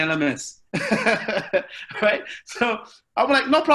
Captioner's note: laughs loudly